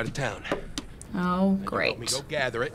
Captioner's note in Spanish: sarcasticamente